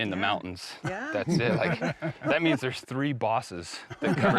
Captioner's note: laughter